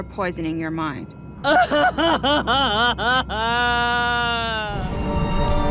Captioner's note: crying